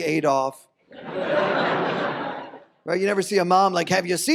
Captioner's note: audience laughs